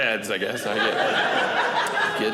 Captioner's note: audience laughing